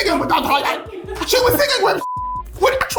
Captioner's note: beep